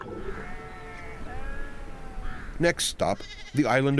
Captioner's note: sheep bleating